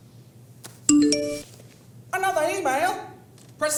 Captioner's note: computer dings